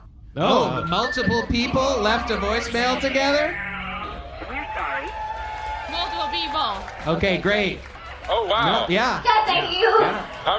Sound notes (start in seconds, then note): 5.5 audience cheering